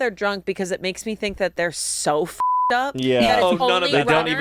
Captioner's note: beep